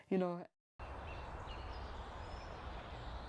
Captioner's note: birds chirping